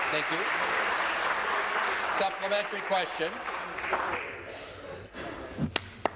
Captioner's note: applause